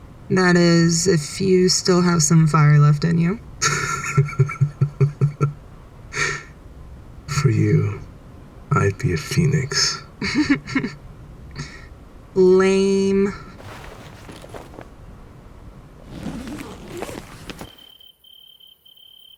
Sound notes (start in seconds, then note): 3.5 Smoke laughs; 10.1 Cinder chuckles